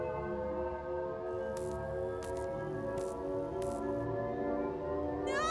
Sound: electricity zapping

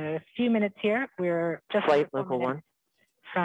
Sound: overlapping chatter

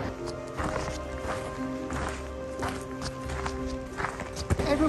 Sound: sound of footsteps

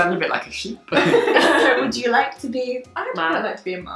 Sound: laughing

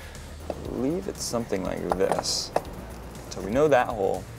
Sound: part clicking

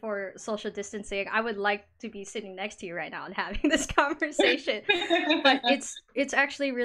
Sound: laughs

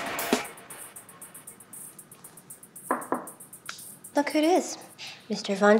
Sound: knocks

